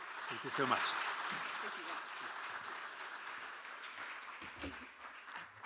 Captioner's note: audience clapping